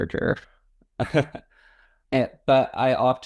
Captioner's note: laughs